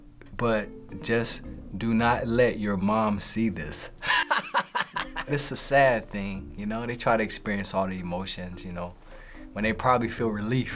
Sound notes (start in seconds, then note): 4.1 laughing